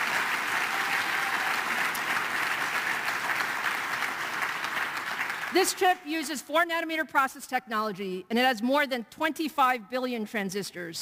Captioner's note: applause